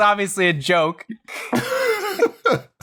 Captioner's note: laughter